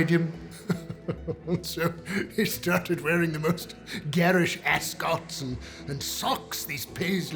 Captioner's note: laughing